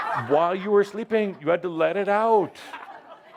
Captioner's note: laughter